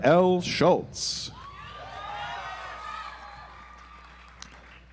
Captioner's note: audience applauds